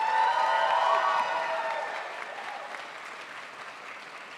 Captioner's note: crowd applauds